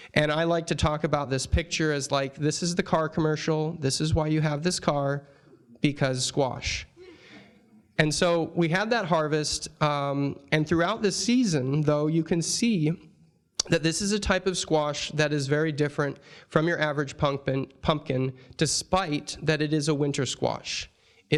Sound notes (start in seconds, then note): 7.0 audience chuckling